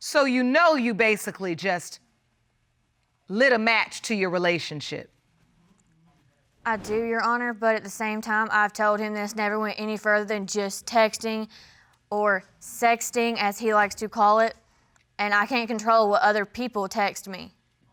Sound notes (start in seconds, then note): none